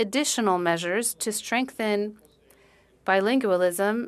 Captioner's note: speaking French